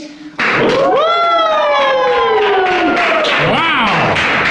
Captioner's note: applause